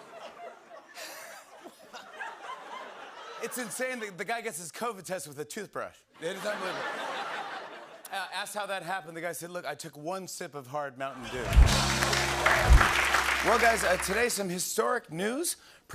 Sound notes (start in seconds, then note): 0.0 laughter; 6.2 laughter; 11.2 laughter